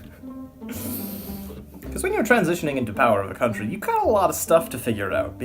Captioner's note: laugh